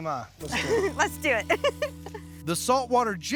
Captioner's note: laughing